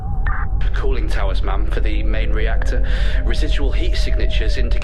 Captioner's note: intercom